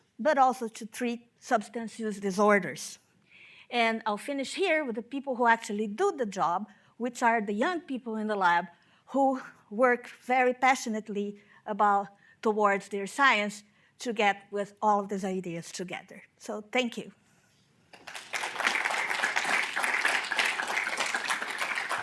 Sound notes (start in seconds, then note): 17.9 audience applauding